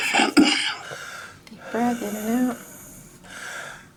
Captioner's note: coughing